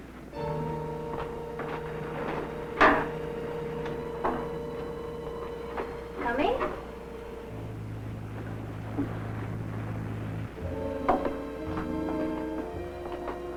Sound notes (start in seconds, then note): 0.0 dramatic music; 1.0 footsteps descending; 10.4 dramatic music